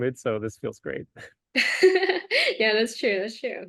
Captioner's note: laughs